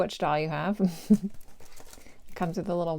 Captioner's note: giggle